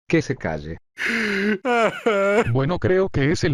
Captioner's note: Phoenix cries